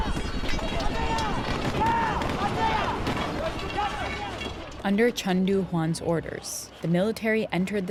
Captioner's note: soundbite of fighting